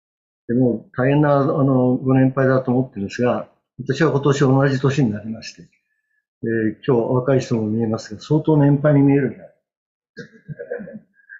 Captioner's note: laughter